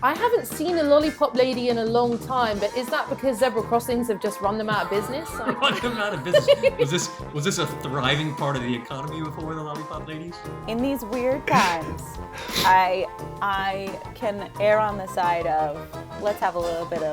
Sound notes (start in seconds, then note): 4.6 laughs; 11.3 laughs